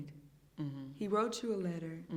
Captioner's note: hums in agreement